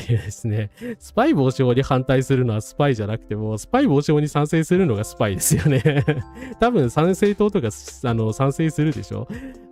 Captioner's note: laughs